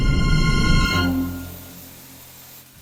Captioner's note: rocket fizzing